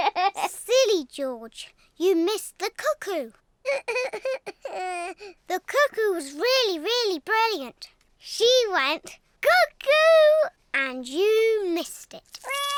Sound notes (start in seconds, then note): 3.6 sobs